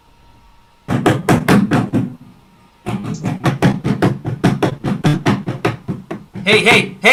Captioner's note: sound of banging